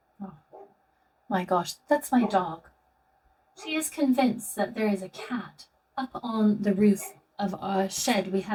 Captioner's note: dog barking